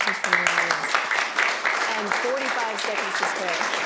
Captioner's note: applauding